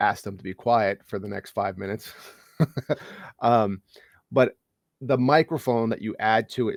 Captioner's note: chuckles